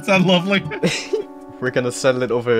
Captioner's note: chuckling